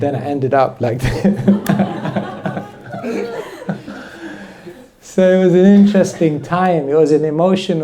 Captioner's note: laughter